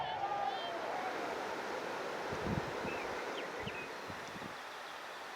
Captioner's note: ocean roaring